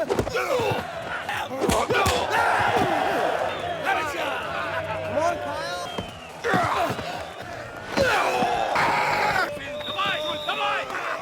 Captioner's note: applause